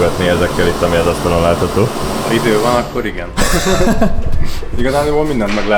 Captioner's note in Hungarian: nevetés